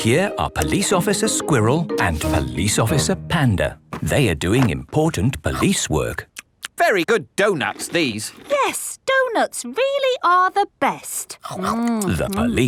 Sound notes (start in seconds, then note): 7.6 munching